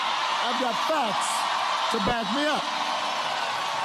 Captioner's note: cheers and Applause